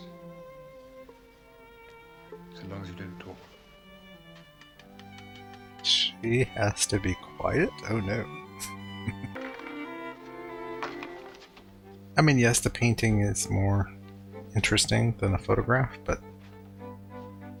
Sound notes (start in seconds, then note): 8.9 chuckling